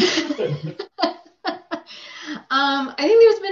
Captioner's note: laughs